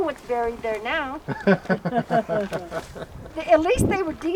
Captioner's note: crowd laughing